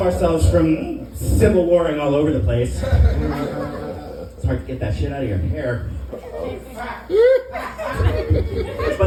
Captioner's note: laughter